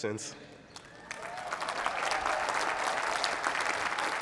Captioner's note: applause